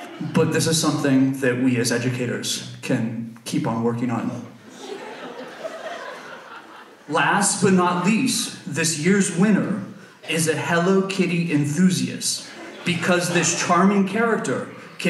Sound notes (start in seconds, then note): 6.4 audience laughs